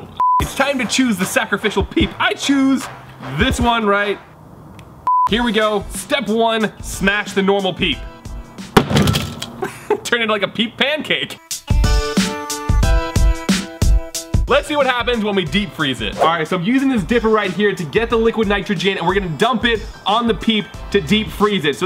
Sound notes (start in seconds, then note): 8.8 hammer bang; 11.6 upbeat music